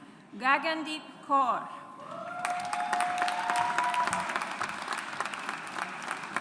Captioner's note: audience applauds